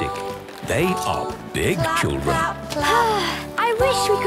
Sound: Belinda sighing

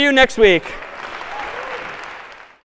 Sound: applause

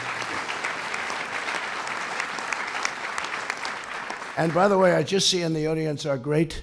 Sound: applause

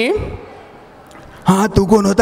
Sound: Nana Patekar voice

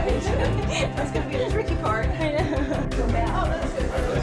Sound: laughs

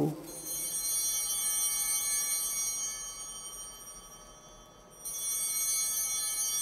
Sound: chimes ringing

